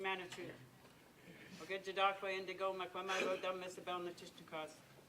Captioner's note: speaking in foreign language